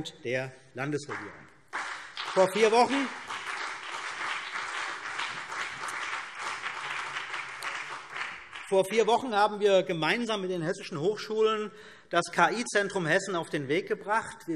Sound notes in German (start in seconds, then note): 1.6 Beifall CDU und BÜNDNIS 90/DIE GRÜNEN